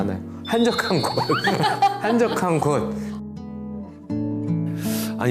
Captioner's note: ㅎㅎㅎㅎㅎㅎㅎ